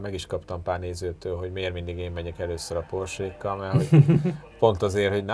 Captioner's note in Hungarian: nevetés